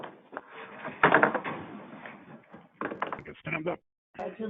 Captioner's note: chairs shuffling